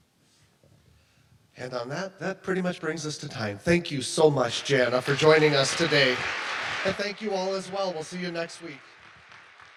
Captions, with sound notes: - And on that, that pretty much brings us to time. Thank you so much, Jana, for joining us today,. (audience applauds) And thank you all as well. We'll see you next week.